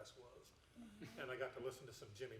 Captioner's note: chuckling